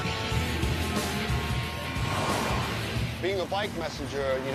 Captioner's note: car horns honk